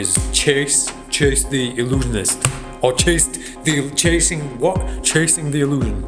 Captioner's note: stutters